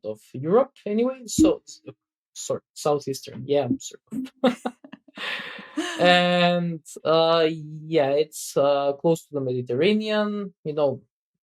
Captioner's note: <Laugh>